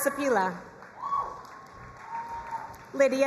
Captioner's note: crowd cheering and applauding